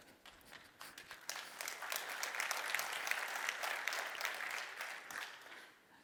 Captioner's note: applause